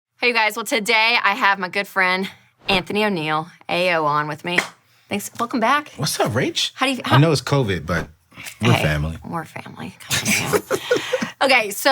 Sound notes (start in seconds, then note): 4.5 slaps; 10.2 chuckles